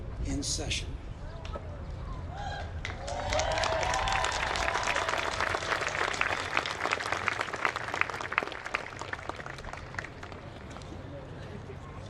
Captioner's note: applause